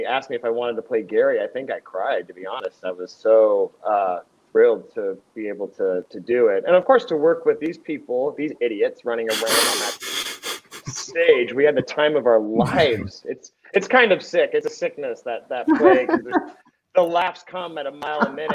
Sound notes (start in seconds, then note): 9.3 laughs; 15.6 laughs